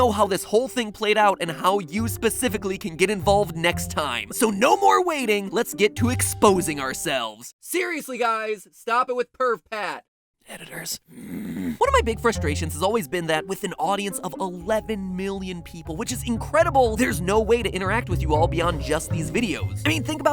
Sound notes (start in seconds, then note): 9.6 whispers; 11.0 grunts